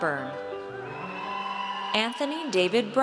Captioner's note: audience cheers